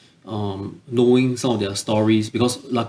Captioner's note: none